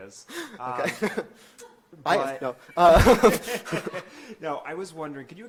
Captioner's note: laughs